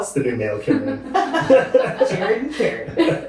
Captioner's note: laughing